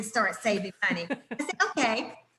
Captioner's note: laughs